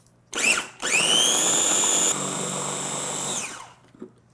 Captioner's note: blender whirring